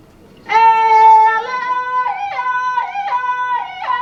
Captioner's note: shouts